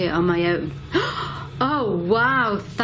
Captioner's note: gasps